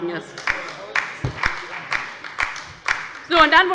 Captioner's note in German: Beifall bei der LINKEN – Zurufe von der CDU